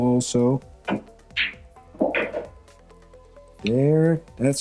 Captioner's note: balls clanging